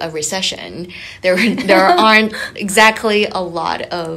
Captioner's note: both laughing